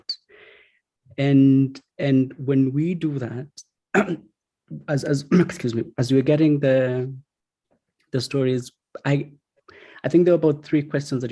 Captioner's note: coughs